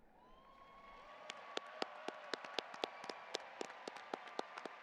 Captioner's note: audience applauding